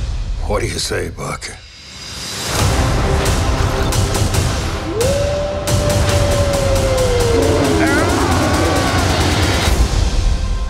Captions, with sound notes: What do you say, Buck? (HOWLING) -(GROWLS) -(YELLING)